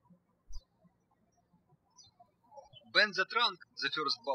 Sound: birds chirping

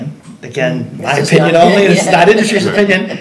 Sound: laughing

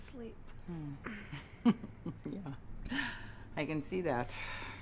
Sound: giggling

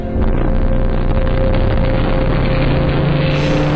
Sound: machine roaring

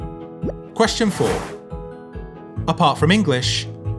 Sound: gentle music; number pops and whooshes

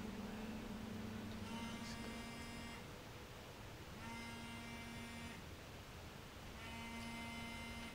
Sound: phone Vibration

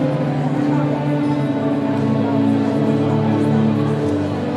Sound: none

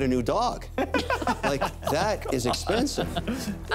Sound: laughter

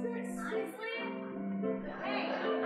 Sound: audience laughing

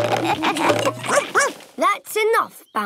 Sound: all laugh; barks

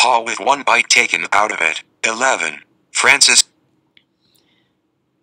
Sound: end TTS voice

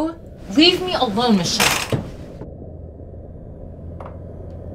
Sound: curtain rattles; eerie music

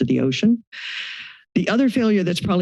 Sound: inhales

